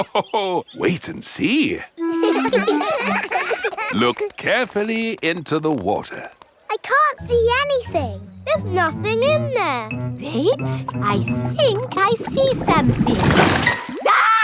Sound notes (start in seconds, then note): 2.0 laughs; 2.0 children laughing